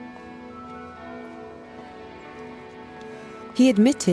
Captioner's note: church bell tolling